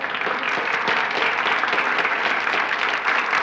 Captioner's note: applauding